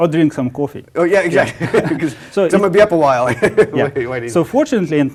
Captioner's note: laugh